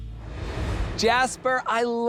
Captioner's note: air whooshes